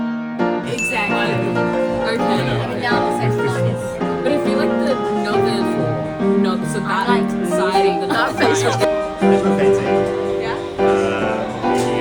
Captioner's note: background chatter